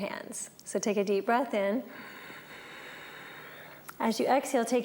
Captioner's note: breathes